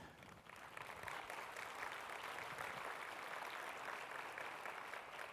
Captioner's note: audience applauding